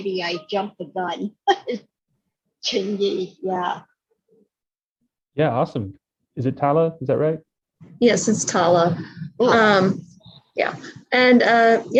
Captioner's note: laughing